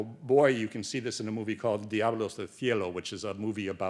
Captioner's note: speaks Spanish